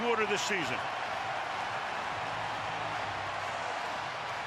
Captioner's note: cheering